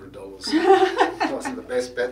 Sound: laughter

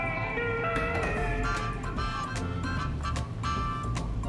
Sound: door closes

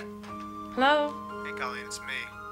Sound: on phone

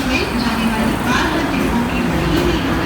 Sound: people's talk

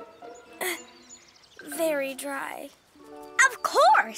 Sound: coughs

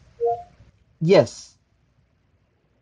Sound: phone beeps

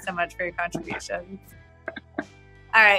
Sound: <Laugh>

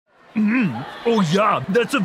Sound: crowd chattering

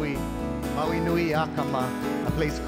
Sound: speaking in Hawaiian

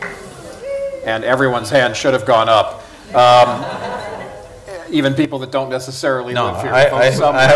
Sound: laughter

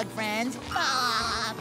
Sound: laughs

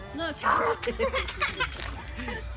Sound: laughing

